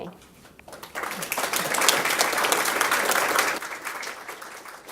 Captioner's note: audience clapping